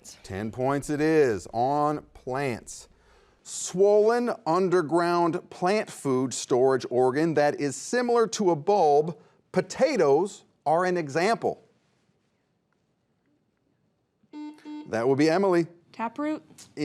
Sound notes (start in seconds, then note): 14.3 buzzer beeps